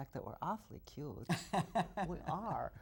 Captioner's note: laughs